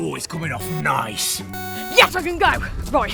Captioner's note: timer sound effect